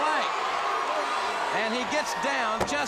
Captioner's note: crowd cheering